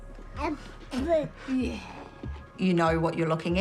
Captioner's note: babbles